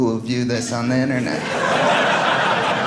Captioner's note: audience laughing